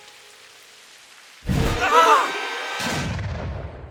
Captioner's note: screams